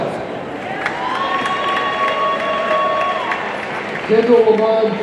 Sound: audience cheering and applauding

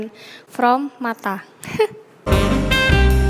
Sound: tehee

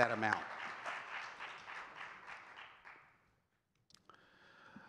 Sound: audience clapping

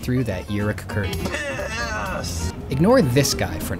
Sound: male voice: PIIIIIIIIISSSSSS

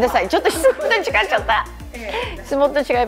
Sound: laughs

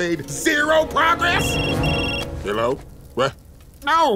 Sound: phone ringing

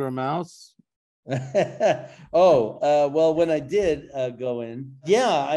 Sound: laughs

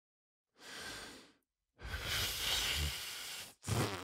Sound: sigh; blows raspberry

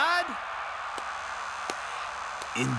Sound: clapping

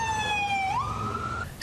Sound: nat siren

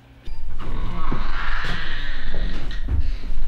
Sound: door creaks

